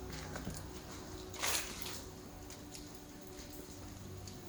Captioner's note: rustling of leaves; mysterious music